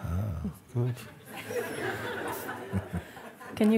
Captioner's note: Lachen